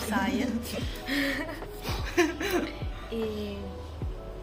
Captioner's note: laughter